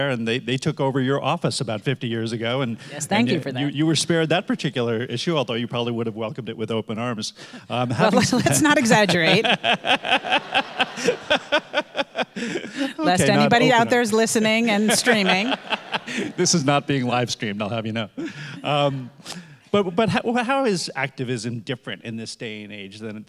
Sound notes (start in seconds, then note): 9.7 audience laughing